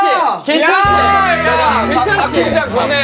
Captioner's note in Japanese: パチ